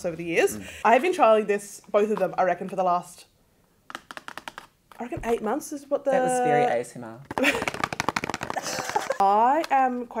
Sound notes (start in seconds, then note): 3.8 fingers tap; 7.2 fingers tap; 8.5 both laugh